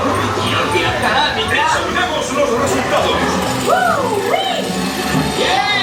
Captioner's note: characters speaking in Japanese